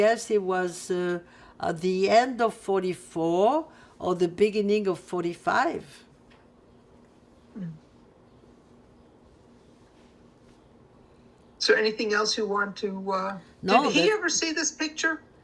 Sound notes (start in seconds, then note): 5.8 pauses 6 seconds